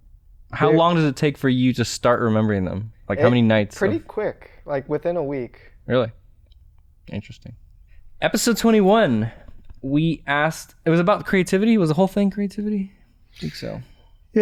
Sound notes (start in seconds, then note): none